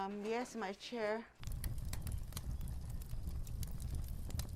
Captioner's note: sounds of a crackling fire